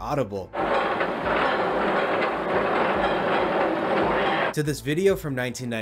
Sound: more distant clacky-clack

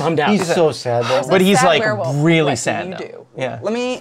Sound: sighs

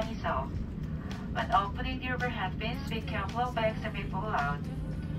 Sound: more plane announcements

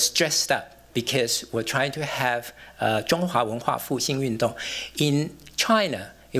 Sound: non-english

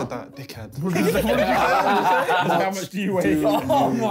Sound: laughing

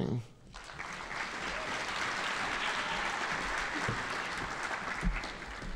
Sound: audience applauding

